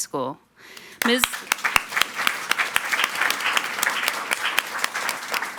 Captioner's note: audience applauding